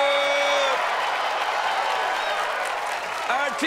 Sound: cheers and applause

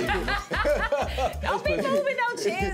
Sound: laughter

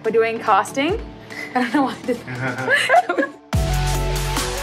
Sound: all chuckling; bright upbeat music

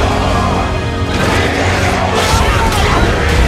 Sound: chanting continues

